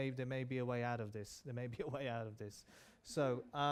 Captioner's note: chuckling